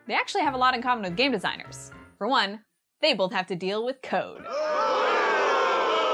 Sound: audience boos

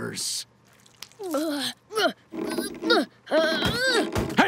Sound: grunting

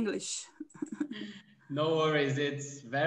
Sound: laughing

